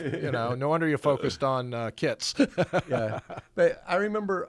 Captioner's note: laughs